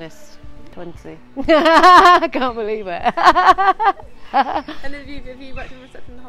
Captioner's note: laughing